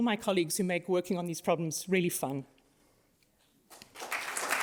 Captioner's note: applause